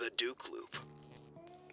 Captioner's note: wires sparking